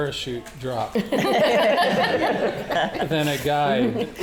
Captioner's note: audience laughing